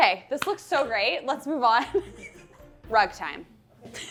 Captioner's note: claps; laughs